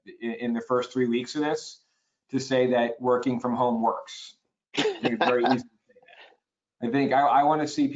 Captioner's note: laughter